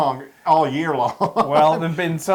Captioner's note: laugh